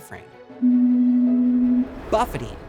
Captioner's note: stall warning horn